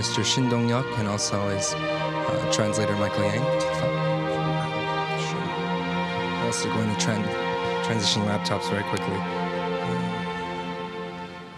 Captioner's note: speaking in foreign language